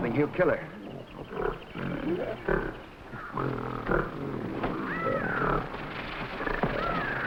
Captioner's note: gorilla grunting; birds cawing